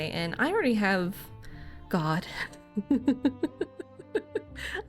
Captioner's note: laughs